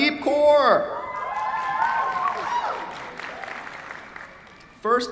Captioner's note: cheers, applause